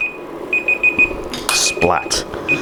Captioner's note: alarm beeping